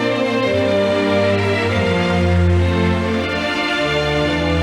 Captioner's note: audience applauding